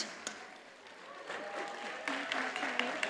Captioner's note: audience cheers and applauds; cheers and applause drown out speaker